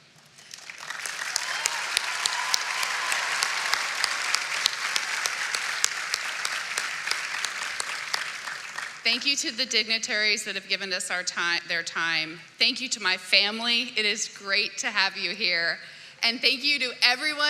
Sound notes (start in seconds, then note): 5.9 applause